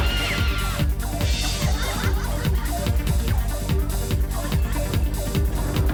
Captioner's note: electronic dance music; people laughing